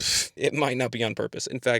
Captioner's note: raspberries